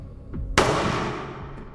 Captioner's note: gunshot